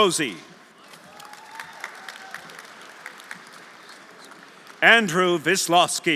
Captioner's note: audience applauding; audience cheering